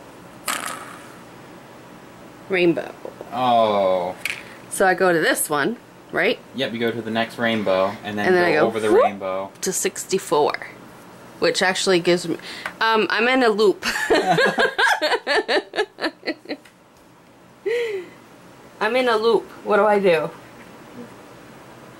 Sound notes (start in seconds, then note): 14.1 laughs